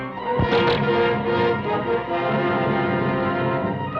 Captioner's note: bows twang